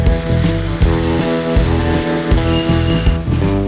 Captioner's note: tools running